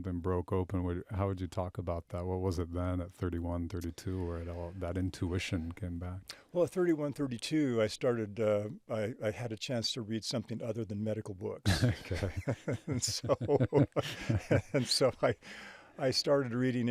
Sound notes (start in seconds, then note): 11.6 both laughing